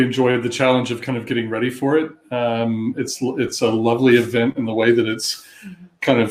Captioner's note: erm